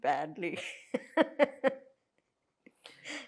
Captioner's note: laughing